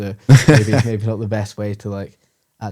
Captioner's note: laughs